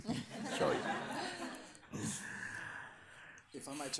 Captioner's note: people laughing